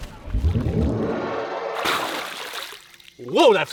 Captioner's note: splashing water and magical sounds